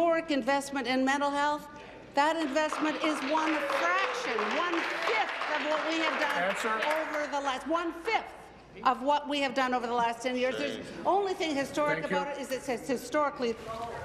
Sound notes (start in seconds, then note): 8.5 applause